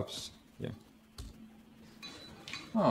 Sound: keyboard press noise

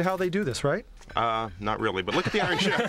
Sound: laughter

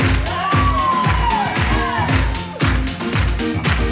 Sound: audience cheers

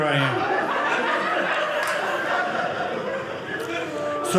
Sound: audience laughing

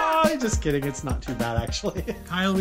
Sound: laughs

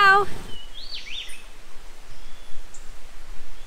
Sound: birds tweeting

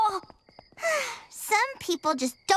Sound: sighing

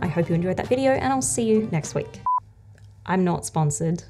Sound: beeping sound

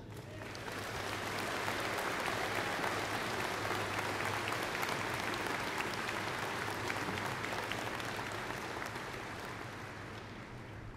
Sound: applause

